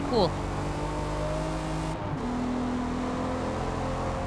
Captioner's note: engine roaring